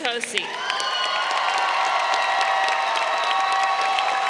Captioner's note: crowd cheering